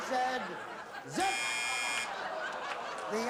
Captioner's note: buzzer